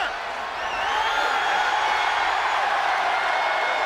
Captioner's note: crowd cheering